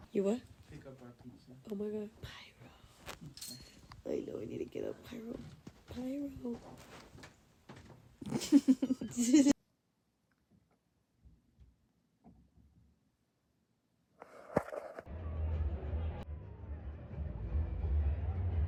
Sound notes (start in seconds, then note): 8.2 laughs; 10.4 silence